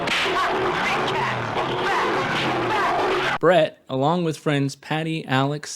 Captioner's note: gun firing